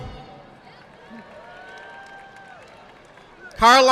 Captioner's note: audience applauding